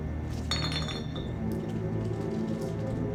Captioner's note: bottle clatters; tense music continues